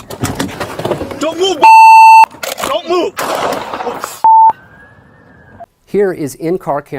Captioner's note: gunshot